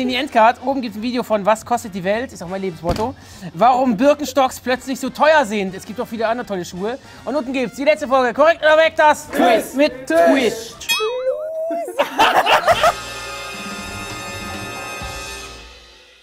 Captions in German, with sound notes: Oben ein Video von "Was kostet die Welt?", ist mein Lebensmotto: "Warum Birkenstocks plötzlich so teuer sind." Es gibt auch andere tolle Schuhe. Unten die letzte Folge KORREKT oder WEG, das ... - Quiz ... Mit ... - Tisch. Loser! (Lautes Lachen) (Dynamischer Schlussakkord)